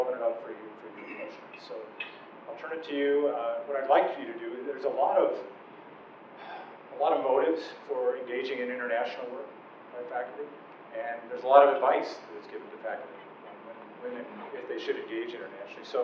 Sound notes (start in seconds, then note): 6.4 sighing